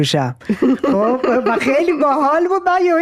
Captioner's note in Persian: خنده!